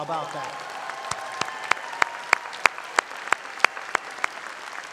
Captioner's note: audience applauding